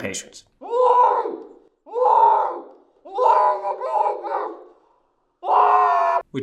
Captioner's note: Web cries